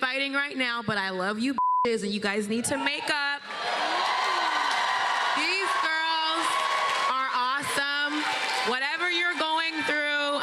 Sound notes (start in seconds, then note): 4.3 cheers and applause